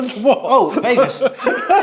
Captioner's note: laughs